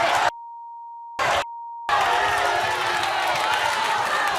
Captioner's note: audience cheers